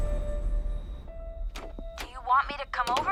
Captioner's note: door opens